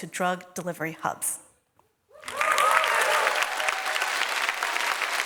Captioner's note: applause